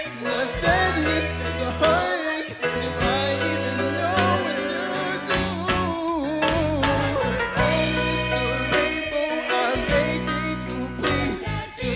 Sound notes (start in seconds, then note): none